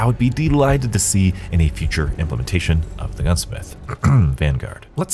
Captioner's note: cough